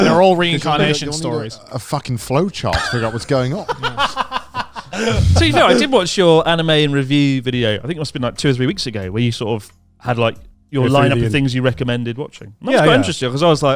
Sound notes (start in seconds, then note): 2.7 laughing